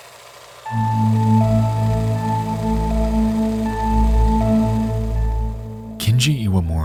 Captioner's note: machine continues whirring; mysterious music